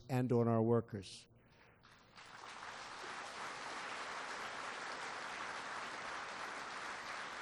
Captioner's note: applause